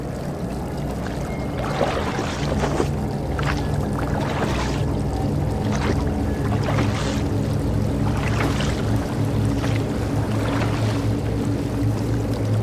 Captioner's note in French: vent, oiseaux, bruit d'eau; Bruit de bateau sur l'eau